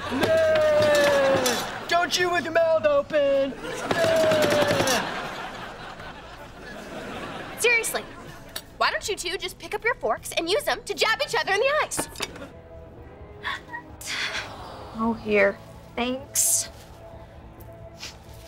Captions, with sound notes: Meh! Don’t chew with your mouth open. Meh! Seriously! Why don’t you two just pick up your forks and use them to jab each other in the eyes? [whimpering] - Oh here. - Thanks.